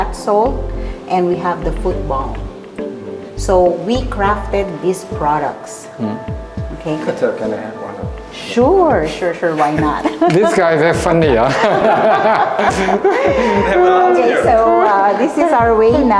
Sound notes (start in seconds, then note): 13.6 laugh